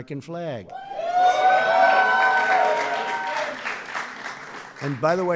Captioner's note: applause